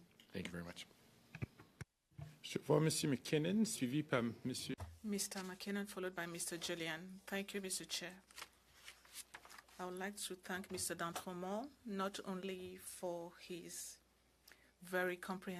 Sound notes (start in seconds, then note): 12.2 speaking French